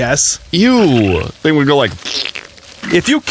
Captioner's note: makes fart noise